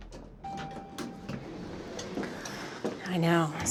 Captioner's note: elevator dinging